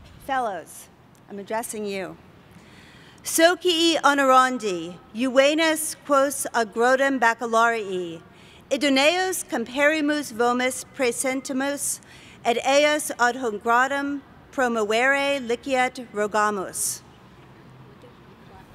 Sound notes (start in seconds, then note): 5.6 speaking latin